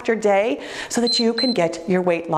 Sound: timer beeps

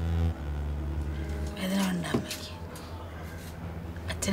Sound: Amma speaks to her mother in malayalam

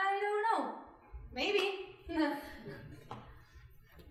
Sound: chuckling

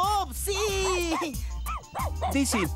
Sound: barking

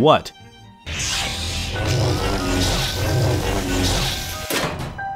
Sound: laser whirring

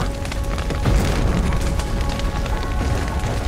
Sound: Aard booms

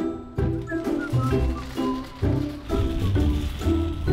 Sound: whistles; light music

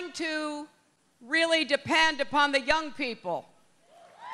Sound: cheering

